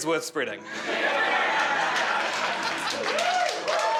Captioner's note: crowd laughing and cheering